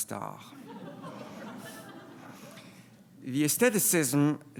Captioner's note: laughing